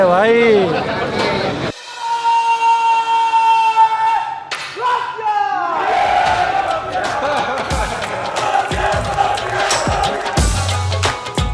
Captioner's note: chanting slogans